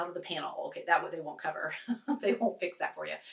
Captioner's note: laughs